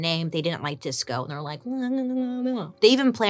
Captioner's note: whines